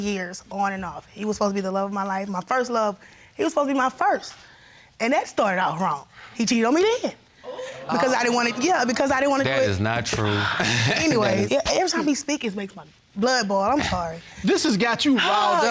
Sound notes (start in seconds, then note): 10.1 chuckles